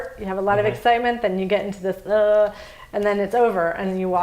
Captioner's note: groans